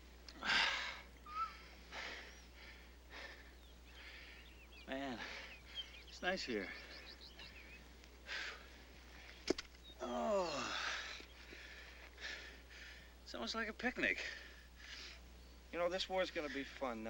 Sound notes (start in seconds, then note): 0.3 Gil sighs and breathes heavily